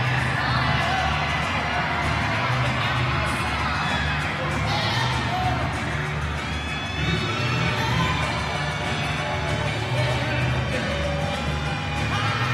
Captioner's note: applause